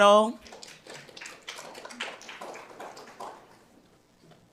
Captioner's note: audience applauds